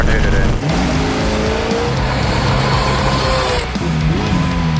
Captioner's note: engine revving